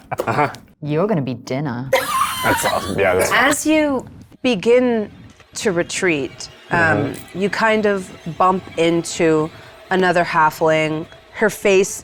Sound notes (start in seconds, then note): 1.9 laughs